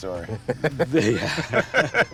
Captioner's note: laughs